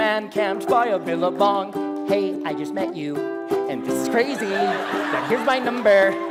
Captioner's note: risos